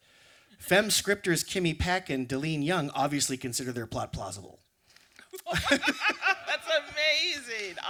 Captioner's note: laughter